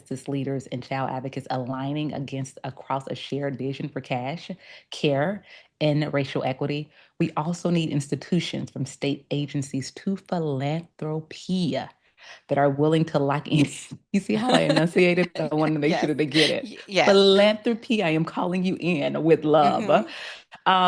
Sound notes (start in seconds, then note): 14.4 laughs